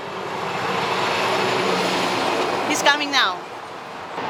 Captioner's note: vehicle whooshing